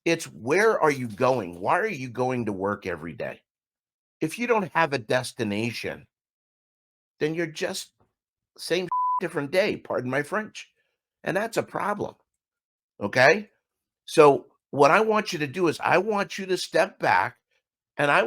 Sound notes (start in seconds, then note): 8.9 beep